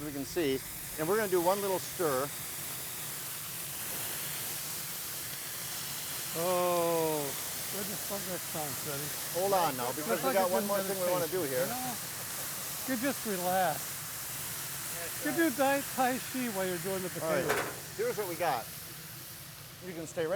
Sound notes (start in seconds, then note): 2.9 potatoes sizzling